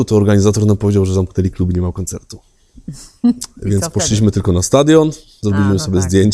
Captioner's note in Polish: śmiech